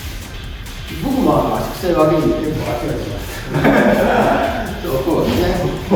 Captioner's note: laughs